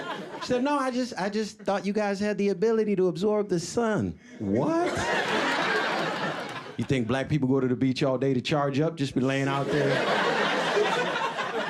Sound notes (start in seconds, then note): 4.5 audience laughing; 9.4 audience laughing